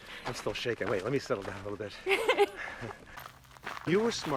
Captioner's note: Lisa laughs